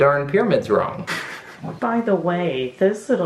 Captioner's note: laughing